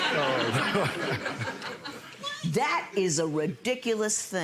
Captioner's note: audience laughs; chuckles